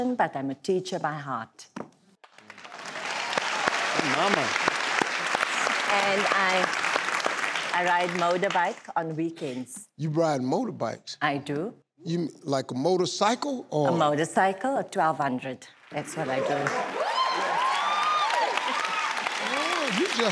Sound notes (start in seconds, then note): 2.2 clapping; 16.1 cheering; 16.4 clapping